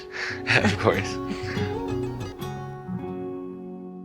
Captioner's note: chuckling; gentle upbeat music